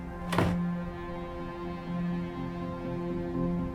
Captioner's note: door bangs